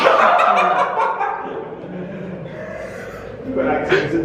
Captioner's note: laughing